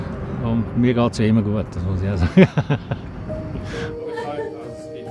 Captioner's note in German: lacht